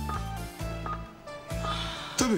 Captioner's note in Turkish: Yaşam destek cihazı çalışıyor